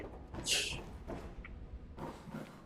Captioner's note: scoffs